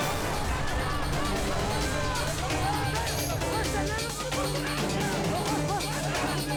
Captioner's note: dramatic music; group shouting